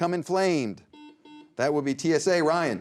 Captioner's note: buzzer beeps